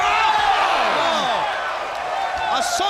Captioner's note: crowd cheering